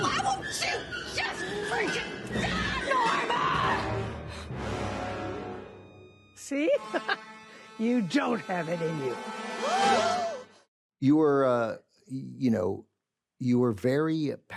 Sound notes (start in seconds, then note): 6.9 laughs; 9.2 gasps; 9.2 music concludes